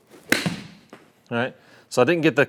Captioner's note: club thwacking golf ball